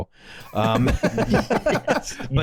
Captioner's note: laughter